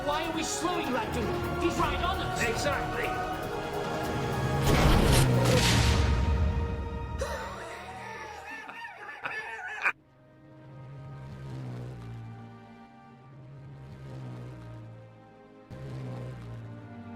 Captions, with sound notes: - Why are we slowing, Ragtooth? He's right on us. - Exactly. (explosion rumbles) (Ragtooth laughs) (slow orchestral music)